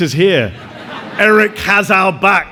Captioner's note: audience laughs